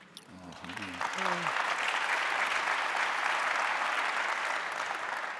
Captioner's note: audience applauding